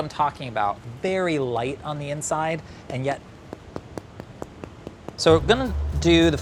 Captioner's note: knocking